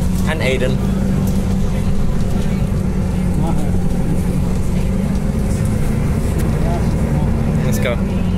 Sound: bus Noises

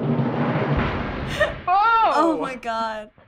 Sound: laughs

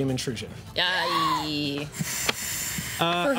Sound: gasps

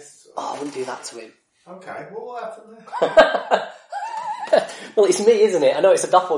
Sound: laughs

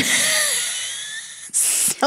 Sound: laughs

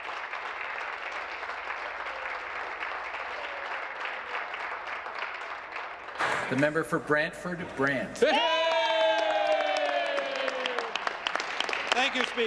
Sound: applause

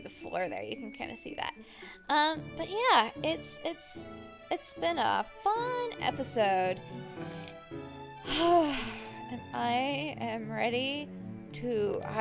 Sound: sigh

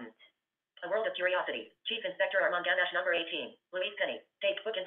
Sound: VoiceOver voice

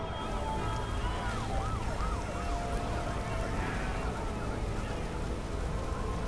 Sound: fire crackling; water whooshing

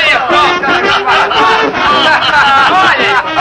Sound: mocking and laughing

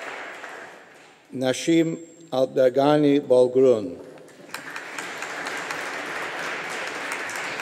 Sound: audience applauding

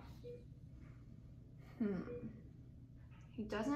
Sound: beeping

